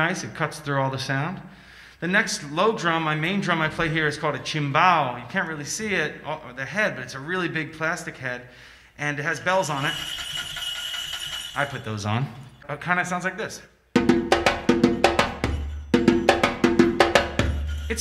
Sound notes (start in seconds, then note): 9.6 bells ringing; 13.9 melodic drum music